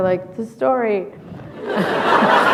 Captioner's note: laughter